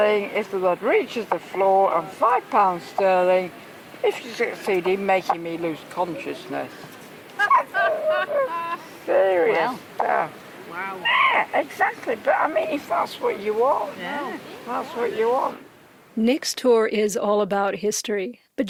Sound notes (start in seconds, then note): 7.4 audience laughter